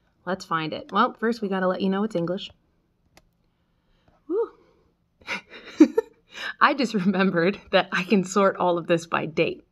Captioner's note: laughs